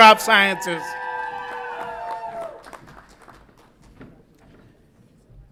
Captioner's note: audience applauds and cheers